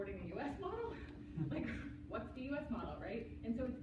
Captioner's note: chuckles